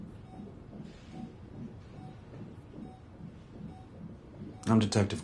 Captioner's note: heart monitor beeping